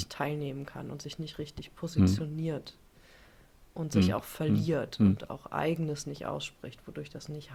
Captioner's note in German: räuspern